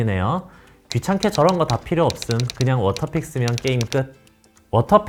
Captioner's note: typing